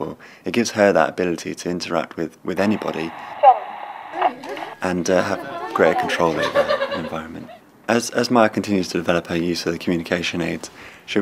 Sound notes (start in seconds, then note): 3.1 the voice output communication aid speaks choice